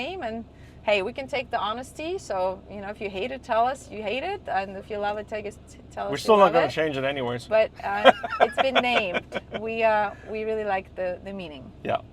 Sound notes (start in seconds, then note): 7.8 laughs